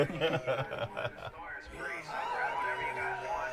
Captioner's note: man laughing; crowd cheering